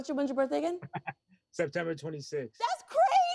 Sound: chuckles

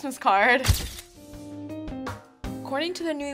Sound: camera shutter clicks; upbeat music

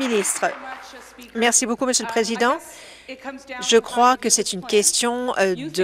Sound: applause

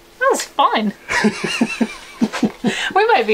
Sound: laughing

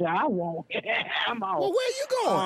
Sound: laughing

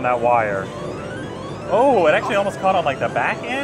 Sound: machine bleeps

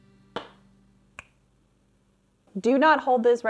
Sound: fingers snapping

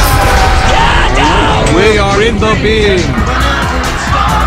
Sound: screams of the damned; moooo; random screaming

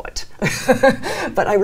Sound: laughs

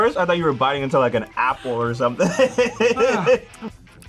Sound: laughs

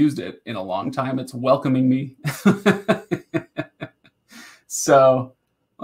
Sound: laughing

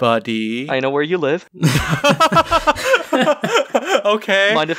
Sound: laughs

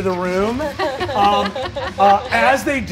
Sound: all laugh

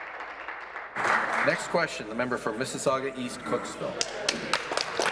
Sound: applause

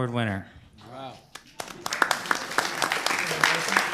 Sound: applause

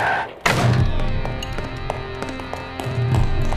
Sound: door opens; both step loudly

